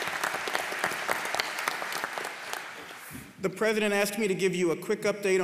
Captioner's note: applause